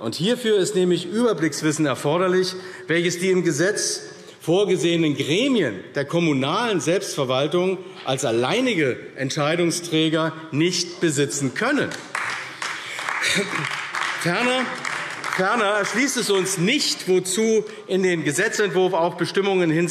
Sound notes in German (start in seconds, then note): 11.8 Beifall AfD